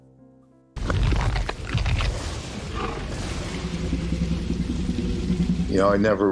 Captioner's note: dinosaur crunching; thunder rumbling